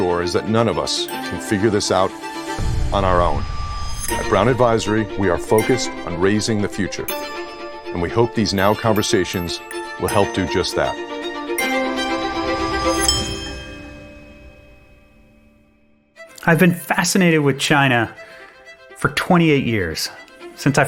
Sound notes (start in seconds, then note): 12.1 bells chiming